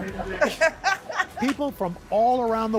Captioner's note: laughter